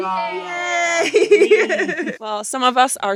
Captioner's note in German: lacht